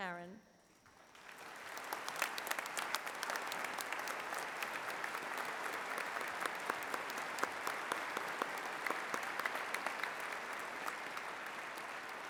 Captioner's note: applause